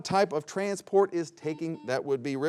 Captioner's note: buzzer beeps